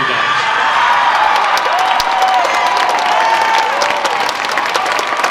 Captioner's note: audience cheering